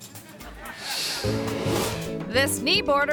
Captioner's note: audience laughing